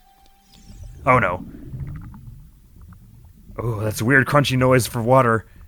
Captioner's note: slurping and crinkling